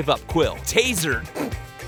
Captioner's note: laughing